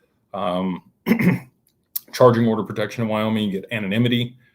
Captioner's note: clears throat